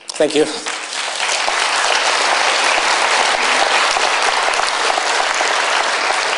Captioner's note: applause